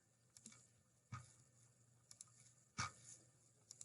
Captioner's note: mouse clickings